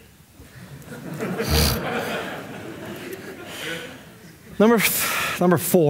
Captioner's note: audience laughing